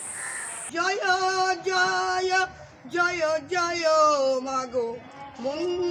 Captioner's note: chanting